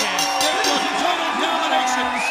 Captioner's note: bell ringing